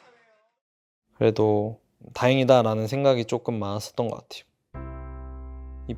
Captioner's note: BuZz